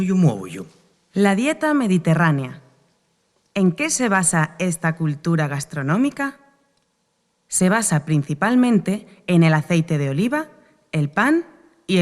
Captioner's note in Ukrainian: Запис іспанською мовою